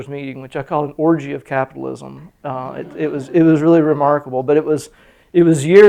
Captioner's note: laughter